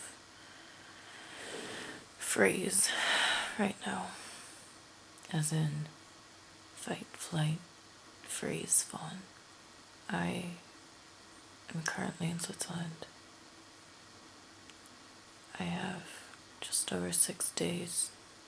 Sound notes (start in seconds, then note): 0.3 inhales deeply; 4.3 sighs